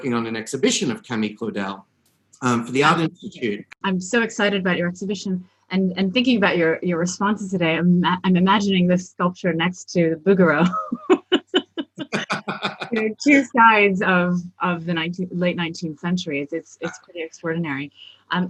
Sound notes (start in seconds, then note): 10.6 both laugh